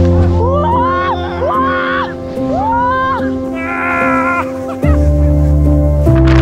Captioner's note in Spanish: Gritos de locura